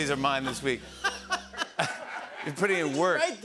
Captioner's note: laughter